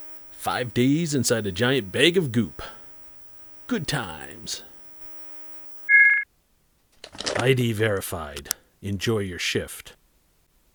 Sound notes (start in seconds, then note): 5.9 scanner beeps